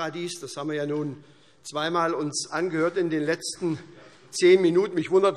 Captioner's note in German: none